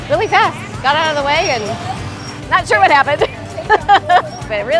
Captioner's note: laughs